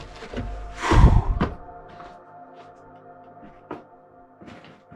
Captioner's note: heavy breathing